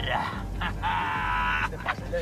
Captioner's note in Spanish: Risas